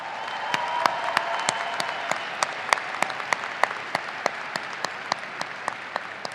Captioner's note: audience applauding and cheering